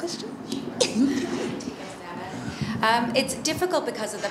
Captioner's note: laughs